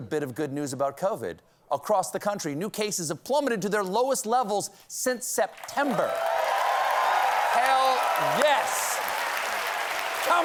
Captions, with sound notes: ACROSS THE COUNTRY, NEW CASES HAVE PLUMMETED TO THEIR LOWEST LEVELS SINCE SEPTEMBER. ( CHEERS AND APPLAUSE ) HELL, YES! COME ON!